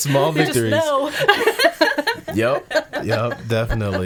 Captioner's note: laughing